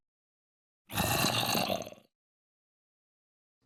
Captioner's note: zombie growls in reluctance